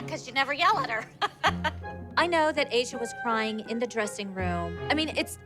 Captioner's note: laughs